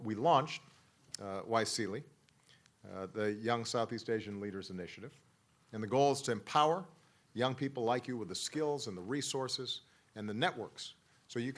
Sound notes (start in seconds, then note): none